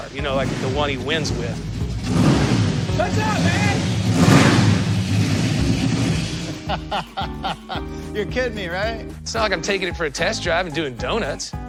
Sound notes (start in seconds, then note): 3.9 engine revving; 6.6 laughs